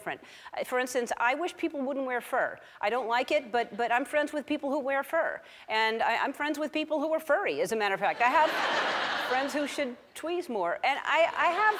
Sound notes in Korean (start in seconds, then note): 8.2 웃음; 11.4 웃음